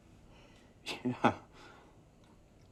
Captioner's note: laughs